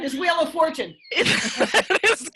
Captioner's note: laughing